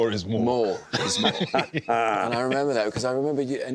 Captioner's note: all laughing